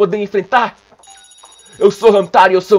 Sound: reading dialogue, trying to make my voice the like the brazilian dub

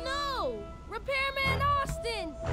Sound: vehicles whir

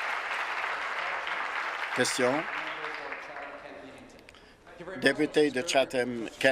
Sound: applause

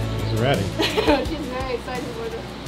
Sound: laughing

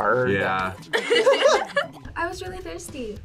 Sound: both laugh

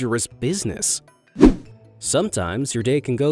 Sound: image whooshing

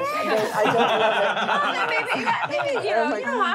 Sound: laughing

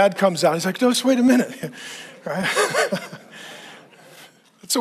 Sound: laughing

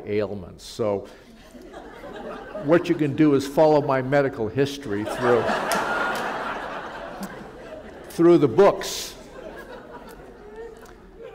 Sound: laughter

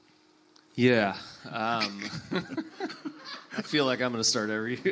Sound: laughs; panelists and audience laugh

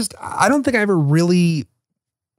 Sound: none

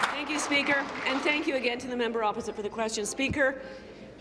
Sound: applause

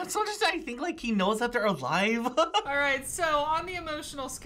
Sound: laughs

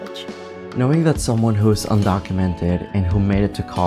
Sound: voiceover

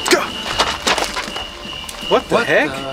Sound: feet shuffling

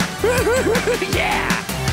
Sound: chuckling

